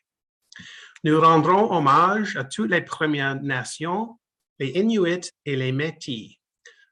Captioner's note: speaking French